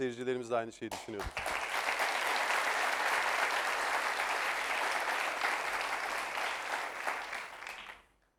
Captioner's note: applause